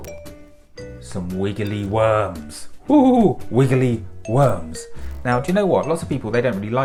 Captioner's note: insert wiggly sound